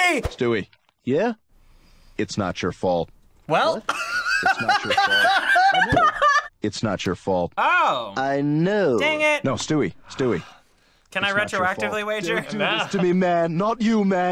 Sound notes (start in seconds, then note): 3.9 laughing